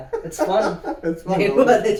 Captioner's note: laugh